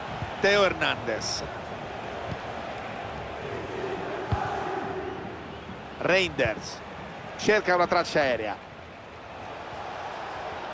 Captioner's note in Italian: Applauso